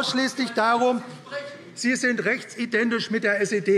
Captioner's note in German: Zurufe DIE LINKE